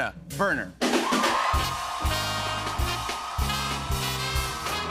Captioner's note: cheers and applause